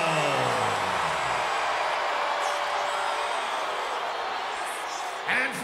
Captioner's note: applause